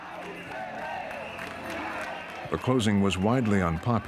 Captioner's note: people chanting